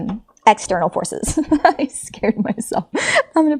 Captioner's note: laughs